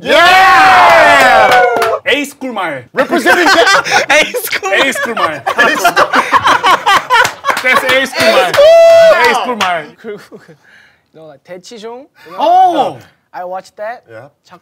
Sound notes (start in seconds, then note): 0.0 members cheering